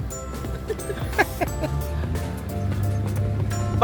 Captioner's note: laughing